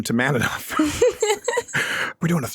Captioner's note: giggles